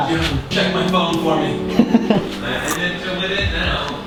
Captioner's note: laughs